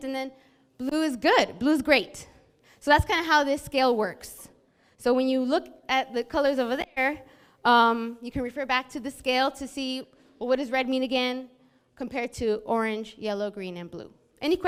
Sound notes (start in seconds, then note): none